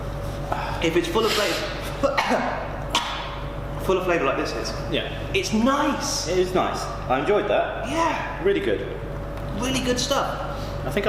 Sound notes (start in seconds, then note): 1.2 coughing